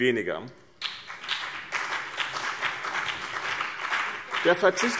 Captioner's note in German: Beifall BÜNDNIS 90/DIE GRÜNEN und vereinzelt CDU